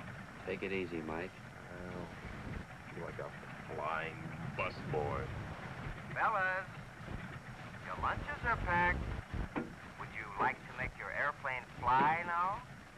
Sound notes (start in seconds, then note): 5.8 man on microphone